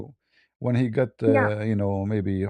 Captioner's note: berdehem